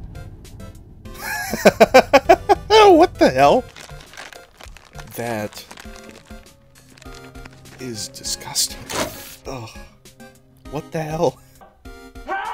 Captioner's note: laughter